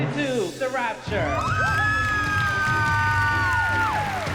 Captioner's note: cheering